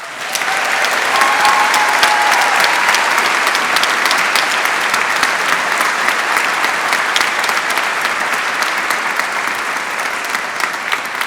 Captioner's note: applause